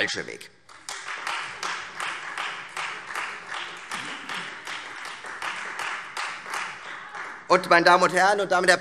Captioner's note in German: Beifall Freie Demokraten